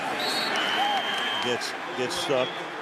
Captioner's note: whistle